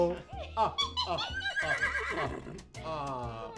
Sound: laughing; horse whinney

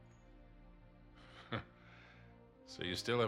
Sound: laugh

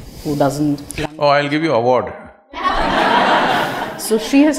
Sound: laughter

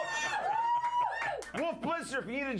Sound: audience cheering

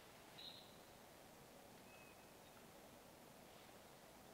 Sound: birds chirping

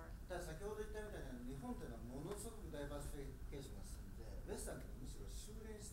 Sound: speaking in foreign language

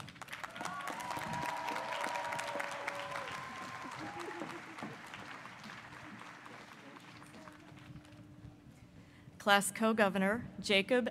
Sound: applause

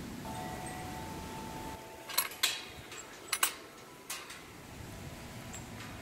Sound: wind Chimes

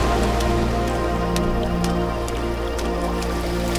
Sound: footsteps

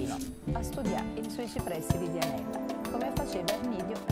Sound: speaking Italian; light upbeat music

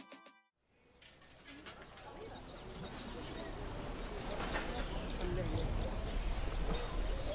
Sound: busy arabella market

